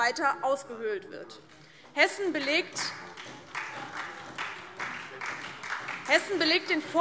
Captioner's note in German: Beifall DIE LINKE und vereinzelt SPD